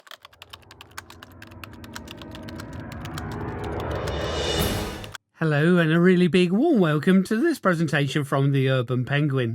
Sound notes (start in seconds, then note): 0.0 typewriter sounds